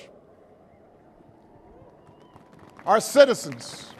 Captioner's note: applause